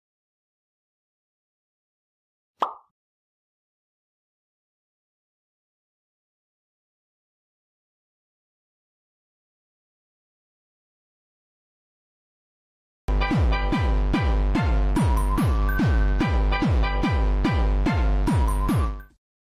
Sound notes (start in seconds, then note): 2.6 pop sound effect; 13.1 upbeat music